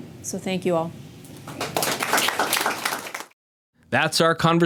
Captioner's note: audience applauds